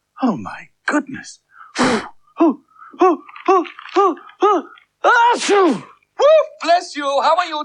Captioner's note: blows Dust Off Plant And Sneezes